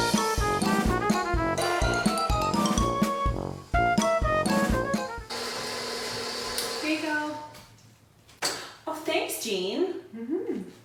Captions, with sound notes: (playful music) (mixer whirring) - Here ya go. - Oh thanks, Jean.